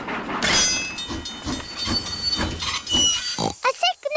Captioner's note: tinging; oinks